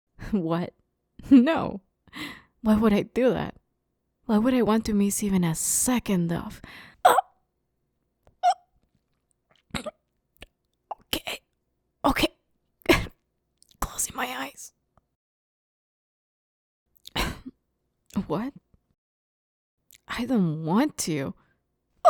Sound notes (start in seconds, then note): 7.1 choking